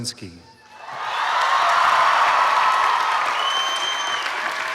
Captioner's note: applause